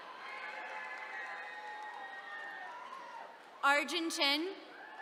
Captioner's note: attendees cheering